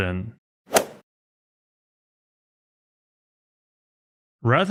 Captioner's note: golf swing sound effect